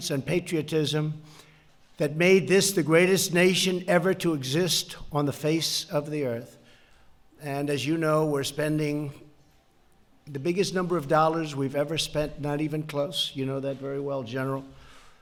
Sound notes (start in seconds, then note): none